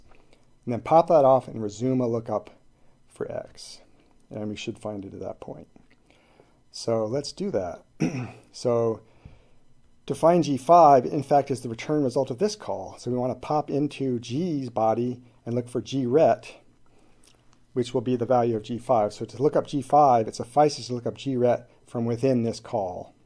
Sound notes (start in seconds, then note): 8.0 clears throat